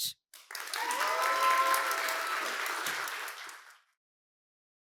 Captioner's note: cheers, applause